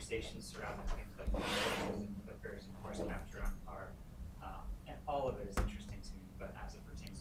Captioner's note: chair scooting